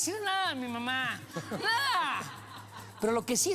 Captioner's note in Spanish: risas